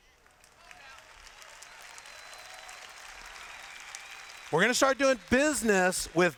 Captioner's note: applause